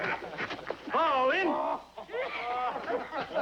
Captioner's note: laughing; laughter Continues